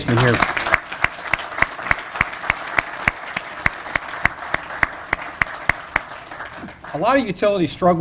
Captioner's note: applause